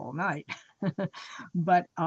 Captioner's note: chuckles